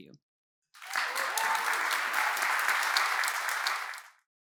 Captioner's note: applause, cheers